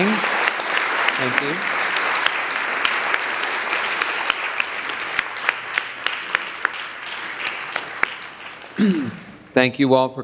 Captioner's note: audience applauds